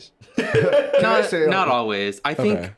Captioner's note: laughs